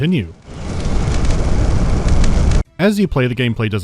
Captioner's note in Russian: оглушающий рёв невидимого огня